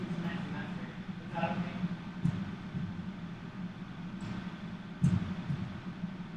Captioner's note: heartbeats